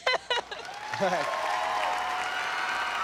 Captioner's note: laughs; audience cheers